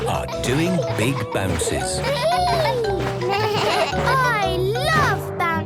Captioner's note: bleating; giggles; giggles, snorts